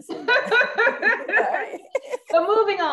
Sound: laughs

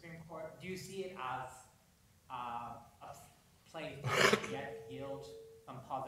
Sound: coughing

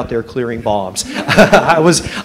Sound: laughter

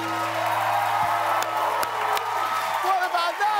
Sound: applause

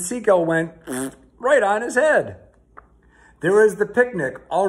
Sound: blows raspberries

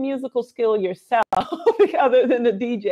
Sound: laughs

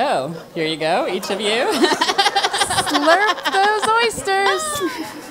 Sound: laugh

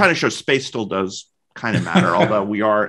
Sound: chuckles

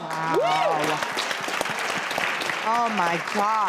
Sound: audience claps

